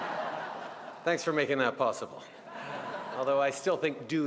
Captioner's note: laughter; laughter